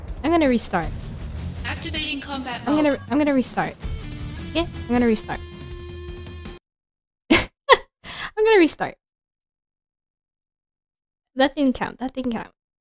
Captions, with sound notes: i'm gonna restart. i'm gonna-- i'm gonna restart. 'kay? i'm gonna restart (laugh) i'm gonna restart that didn't count, that didn't count